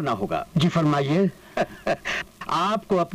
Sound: chuckles

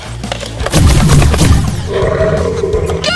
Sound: cure blaster blasting; Super Mega-Germ growling

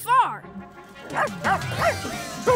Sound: barking

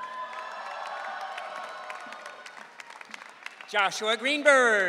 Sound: audience cheering

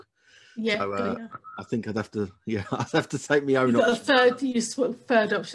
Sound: laughs

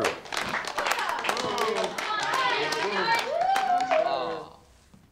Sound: cheering and booing

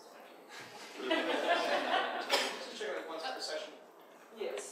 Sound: audience laughs

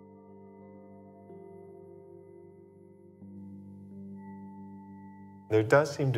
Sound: spherical sounds

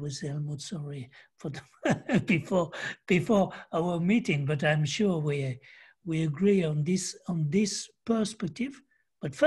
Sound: laughter

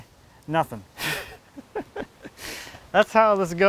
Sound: laughing

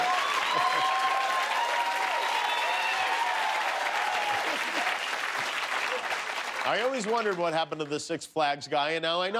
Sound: cheers and applause; laughter

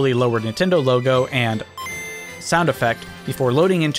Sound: Game Boy ding

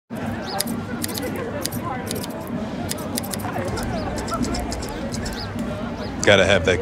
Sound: clipping noises

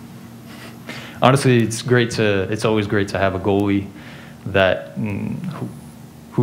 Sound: foreign language being spoken

